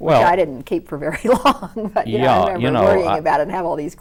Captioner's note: laughs